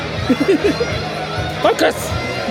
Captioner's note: laughs